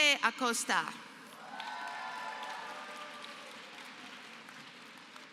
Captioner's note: applause